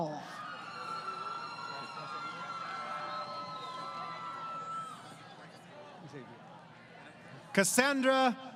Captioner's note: crowd Cheering